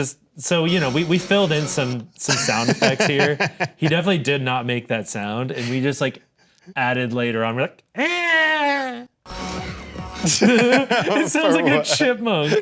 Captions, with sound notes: - Just so, you know, we filled in some sound effects here. He definitely did not make that sound. And we just like added later on we're like (screams) (everyone laughs) - It sounds like a chipmunk.